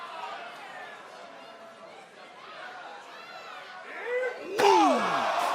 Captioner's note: crowd chatter